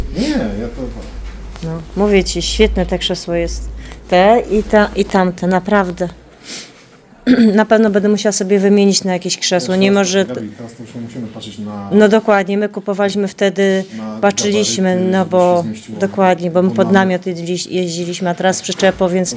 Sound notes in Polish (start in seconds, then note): 5.6 parsknięcie